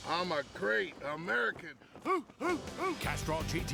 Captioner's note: huffing